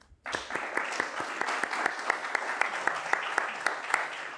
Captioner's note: applause